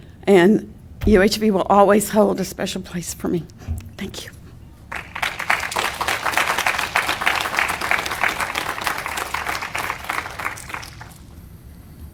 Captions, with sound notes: UHV will always hold a special place for me. Thank you. (audience applauding)